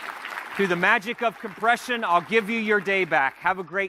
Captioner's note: applause